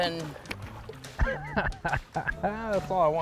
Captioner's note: laughing